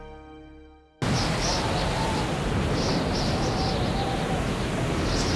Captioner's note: wind howling